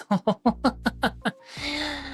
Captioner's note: laughs